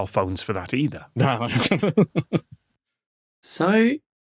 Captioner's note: chuckles